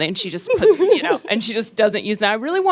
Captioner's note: laughing